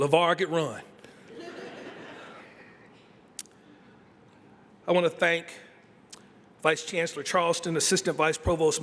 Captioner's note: laughter